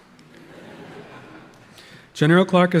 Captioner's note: audience laughing